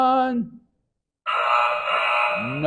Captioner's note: error sound effect